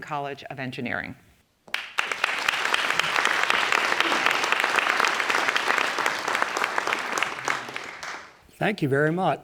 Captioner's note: applause